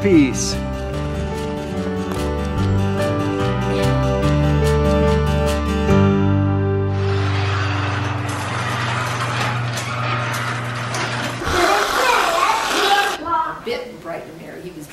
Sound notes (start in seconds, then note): 6.9 creaking; 11.6 whooshing